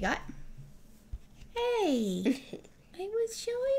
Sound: laugh

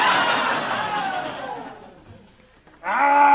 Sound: audience laughing

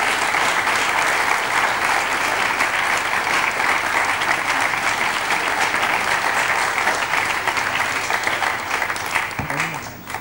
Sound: all clap

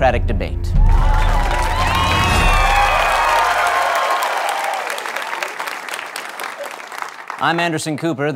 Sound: cheering

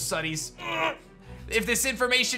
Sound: grunts

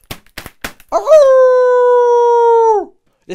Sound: howling

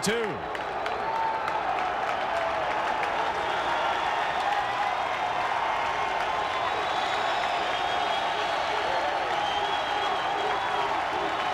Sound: crowd cheering

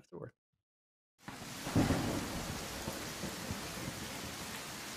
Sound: raining and thundering

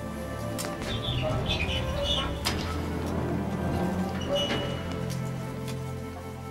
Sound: wooden flute music; metal squealing and groaning

